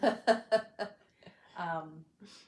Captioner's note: laughs